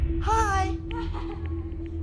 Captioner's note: chuckling